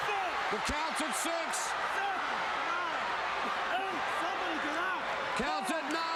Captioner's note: crowd chattering